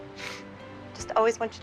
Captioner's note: sniffles